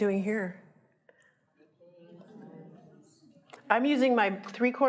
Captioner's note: audience murmuring